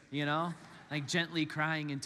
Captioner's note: congregants laugh